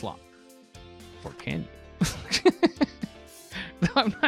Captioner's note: laughs